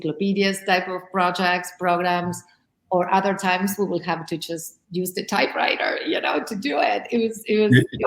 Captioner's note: laughs